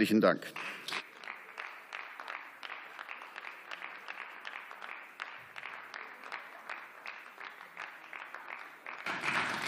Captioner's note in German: Beifall